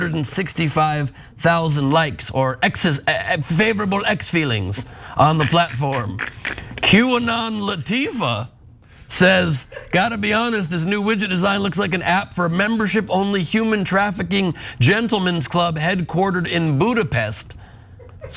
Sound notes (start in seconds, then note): 5.2 laugh